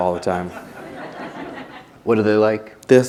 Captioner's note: laughter